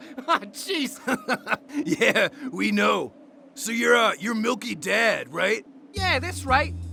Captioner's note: laughs